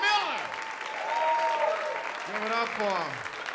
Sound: applause

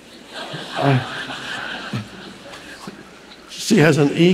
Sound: audience laughing

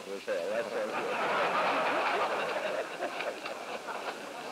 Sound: laughter

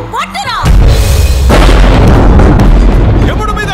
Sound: thunder rumbling

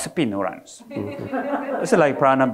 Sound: audience laughing

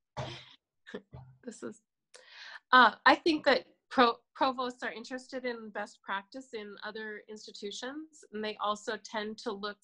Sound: laughs

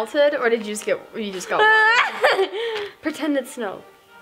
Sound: laughing

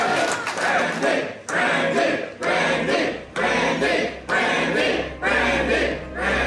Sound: crowd cheering; crowd

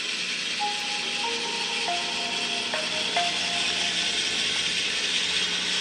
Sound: my phone ringing

